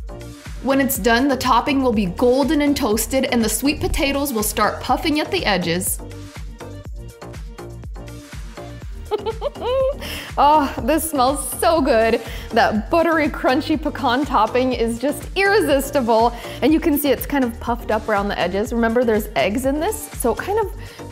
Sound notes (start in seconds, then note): 9.0 giggles